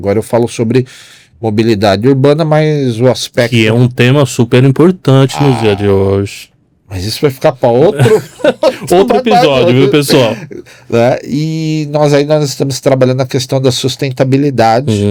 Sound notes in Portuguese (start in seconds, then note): 7.9 risadas